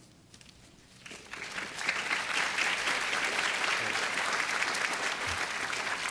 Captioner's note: applause